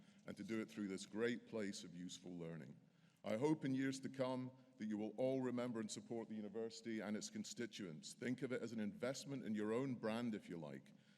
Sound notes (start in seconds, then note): none